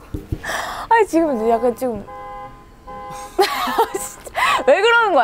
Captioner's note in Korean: 때마침 들려오는 심금을 울리는 경적소리